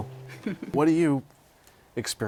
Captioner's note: laughter